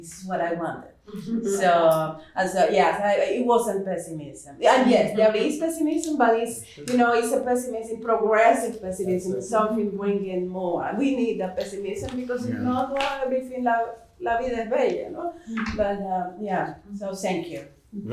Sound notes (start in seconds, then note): 12.9 speaking portuguese